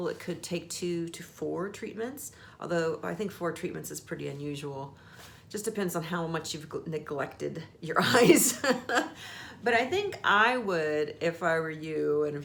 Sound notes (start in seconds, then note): 8.0 laughs